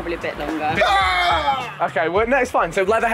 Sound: JJ wailing

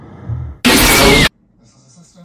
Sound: heartbeat and breathing, slowly fading; static noises

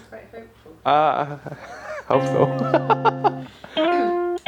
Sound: laughs

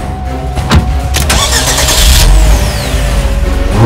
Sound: battle music; car engine starting; engine revving

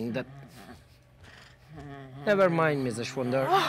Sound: Sharik softly snarling

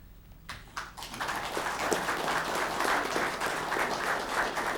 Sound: audience clapping

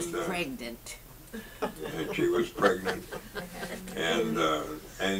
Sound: audience laughs

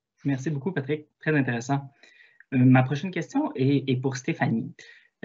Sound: speaks in foreign language

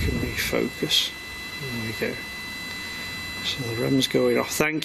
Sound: machine buzzing

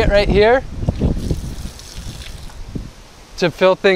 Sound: sound of water flowing

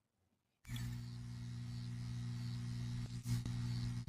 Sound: buzzing neon sign sound

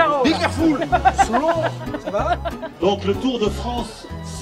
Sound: french conversation in background

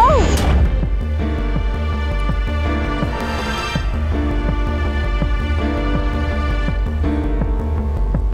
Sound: deep growling

